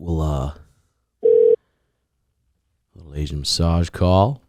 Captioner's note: phone ringing